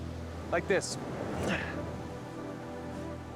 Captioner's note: grunts